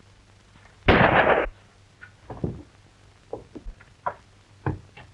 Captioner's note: gun shot